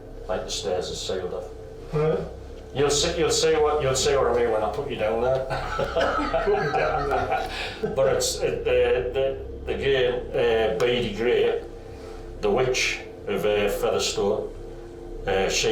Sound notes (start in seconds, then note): 5.3 all laugh